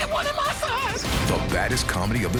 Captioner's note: cheering